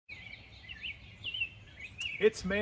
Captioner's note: birds chirping